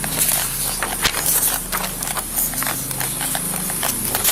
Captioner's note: papers shuffle